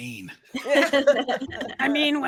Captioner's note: actors laughing